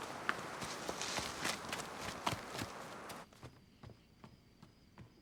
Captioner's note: hurried footsteps patter